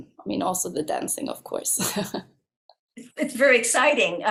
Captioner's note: laughs